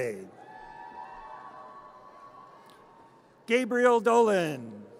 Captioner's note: audience cheers